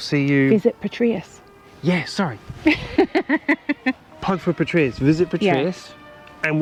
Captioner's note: laughter